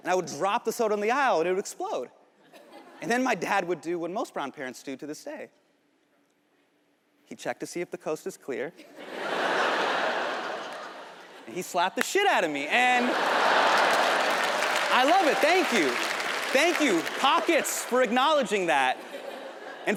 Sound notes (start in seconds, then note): 8.9 audience laughs; 12.7 audience laughs; 12.8 audience applauds